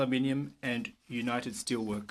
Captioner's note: speaking french